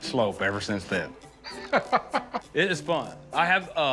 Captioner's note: Rick laughs